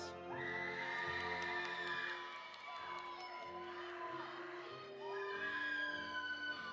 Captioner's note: audience cheering; audience applauding